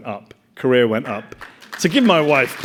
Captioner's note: audience applauding